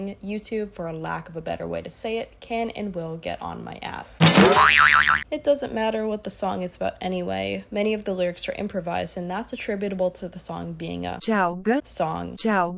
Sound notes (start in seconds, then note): 4.2 thonk, boink